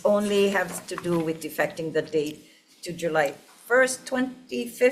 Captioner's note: none